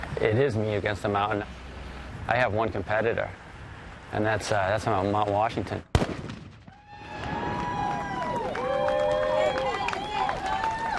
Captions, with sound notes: It is me against the mountain. I have one competitor. And that's Mount Washington. (gun blasting) (competitors applauding)